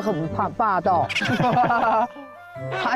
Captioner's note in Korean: 하하하하